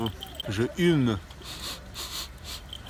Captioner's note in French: il renifle